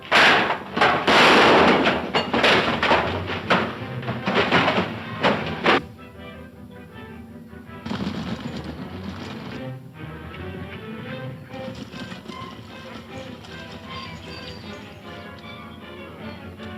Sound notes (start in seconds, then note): 1.1 fires gun; 2.3 clattering; 8.0 galloping hooves; 8.6 energetic orchestral music